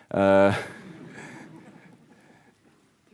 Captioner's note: audience laughing